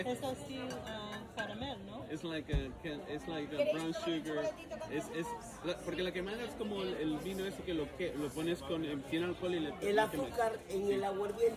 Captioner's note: people chattering